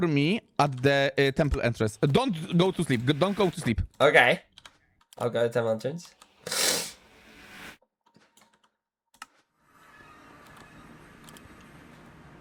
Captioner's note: snorts